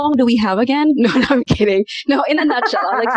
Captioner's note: laughter